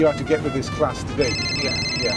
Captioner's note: phone rings